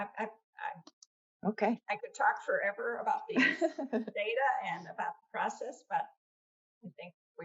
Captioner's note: laughter